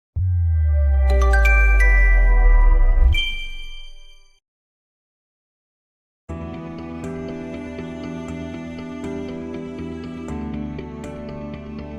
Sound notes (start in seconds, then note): 1.0 chime